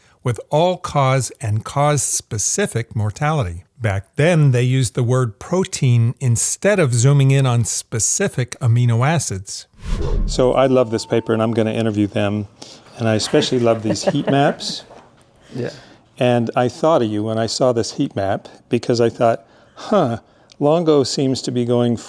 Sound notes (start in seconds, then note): 9.7 transition sound effect; 13.3 laughing